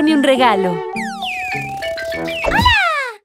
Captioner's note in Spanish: Sonido de pájaro